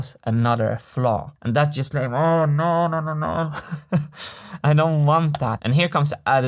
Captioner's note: chuckles